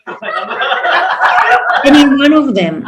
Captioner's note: audience laughs